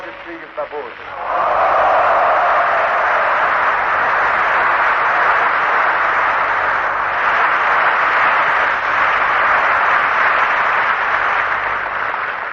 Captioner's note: applause